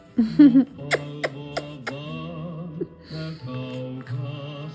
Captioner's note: kissing noises